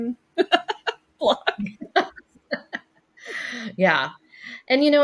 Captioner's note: laughing